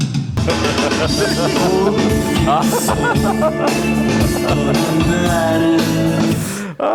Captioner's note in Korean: 웃음